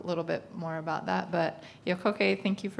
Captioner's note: speaking in foreign language